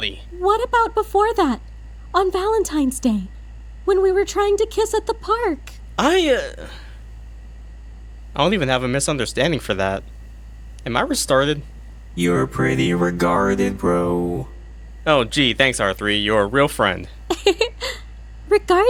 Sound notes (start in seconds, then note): 17.5 giggles